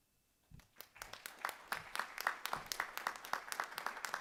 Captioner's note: applause